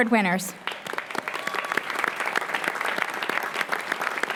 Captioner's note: applause